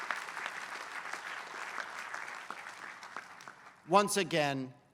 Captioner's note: applause